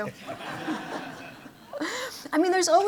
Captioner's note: laughter